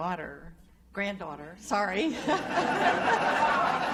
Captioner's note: laughter; laughs